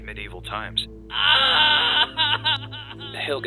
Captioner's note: crying